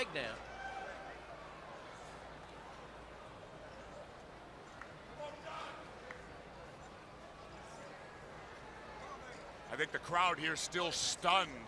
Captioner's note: crowd chatter